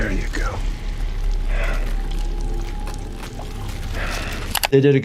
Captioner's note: heavy breathing